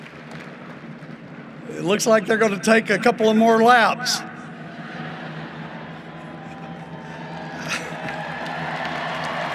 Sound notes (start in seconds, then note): 3.0 applause; 7.5 laughter